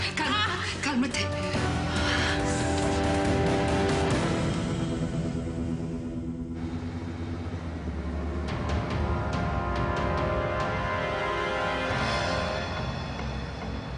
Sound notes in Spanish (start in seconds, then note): 7.1 Ruido de motor